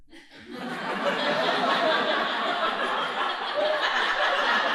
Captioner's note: audience laughing